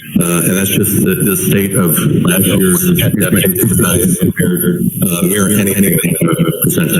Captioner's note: distorted sound